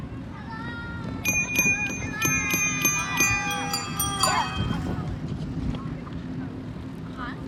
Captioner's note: bike bells